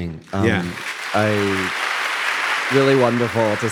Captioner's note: audience applauding